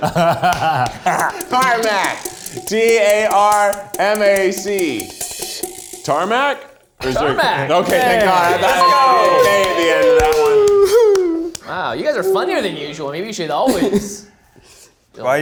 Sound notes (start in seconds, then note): 8.4 bell rings